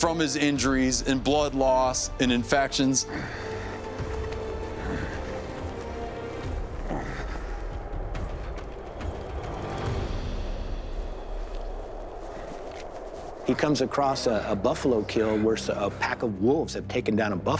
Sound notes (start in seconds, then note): 6.8 grunting; 10.8 wind howling